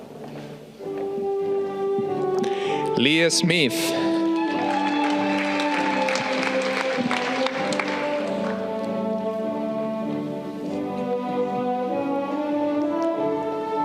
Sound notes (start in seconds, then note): 4.2 audience clapping